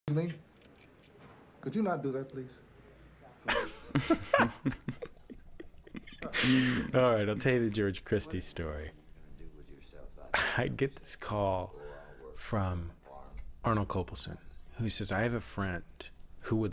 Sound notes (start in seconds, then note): 3.4 laughter